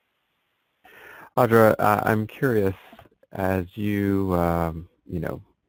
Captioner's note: voiceover